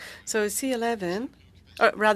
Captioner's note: speaking French